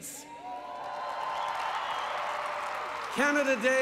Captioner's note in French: Applaudissements